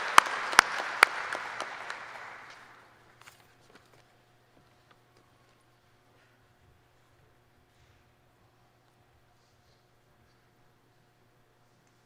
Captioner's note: applause